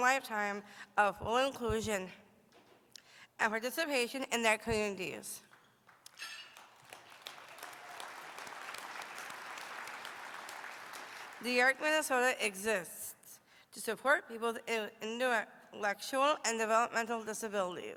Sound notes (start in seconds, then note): 9.9 applause